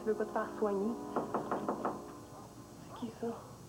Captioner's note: toc! toc! toc!